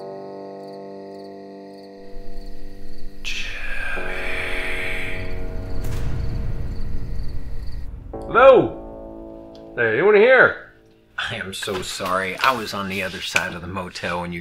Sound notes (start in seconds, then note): 3.5 ghostly Voice